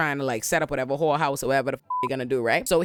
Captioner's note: beep